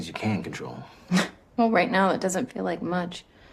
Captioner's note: scoffs